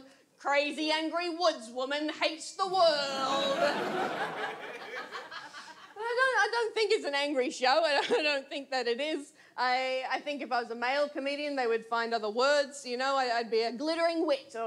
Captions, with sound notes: "Crazy, angry woods woman hates the world." [AUDIENCE LAUGHS] I don't think it's an angry show. I don't think that it is. I think if I was a male comedian they would find other words, you know, I'd be a "Glittering Wit"